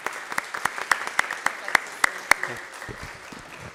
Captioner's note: applauding